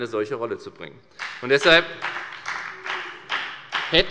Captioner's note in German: Beifall bei der FDP